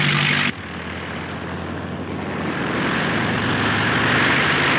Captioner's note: engine roaring; engine droning